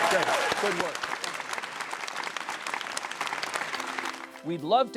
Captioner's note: audience clapping